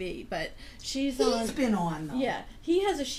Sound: voiceover

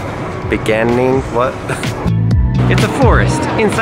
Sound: chuckles

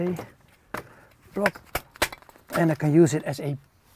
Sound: wood banging

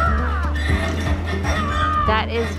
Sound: kids yelling

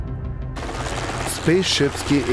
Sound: helicopters whirring

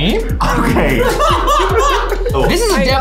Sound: laughing

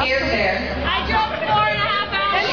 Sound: shouting times

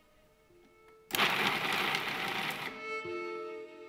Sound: food processor running; smooth upbeat music

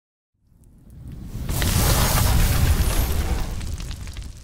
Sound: loud crash

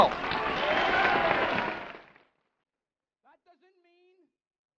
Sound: audience cheering

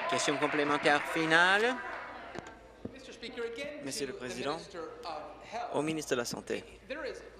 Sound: applause

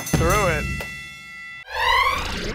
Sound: ding!

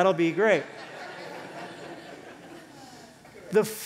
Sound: laughter

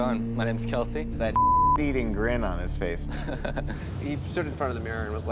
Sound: beep

